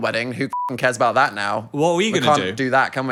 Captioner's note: beep